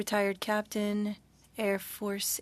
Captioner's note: speaking French